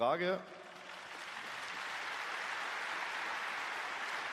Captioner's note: applause